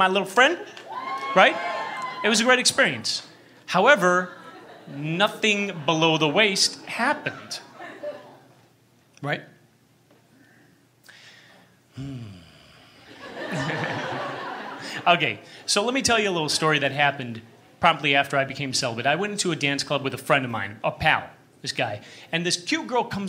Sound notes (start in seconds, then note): 0.8 cheers; 10.9 pause... nervous laughter